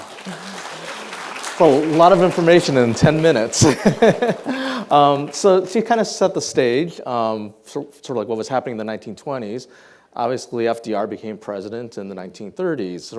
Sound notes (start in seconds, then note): 0.0 audience applauding; 3.5 laughs